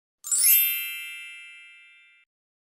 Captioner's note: chime